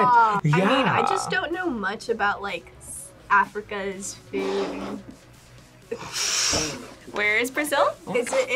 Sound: laughs

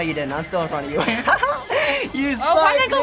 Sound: cheeky laughter

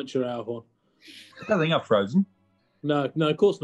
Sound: sniggering

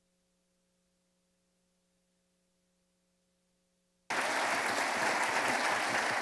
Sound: applause

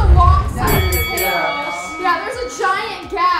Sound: bell ringing

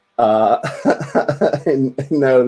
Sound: giggles

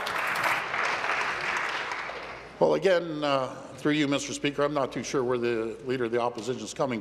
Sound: applause

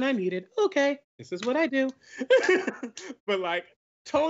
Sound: laughs

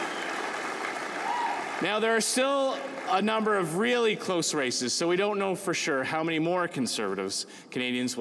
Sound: cheering and Applause

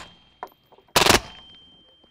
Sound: rapid fire

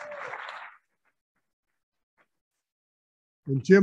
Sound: applauding

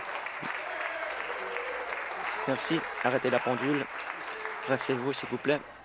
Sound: applause

